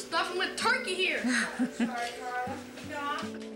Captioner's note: laughs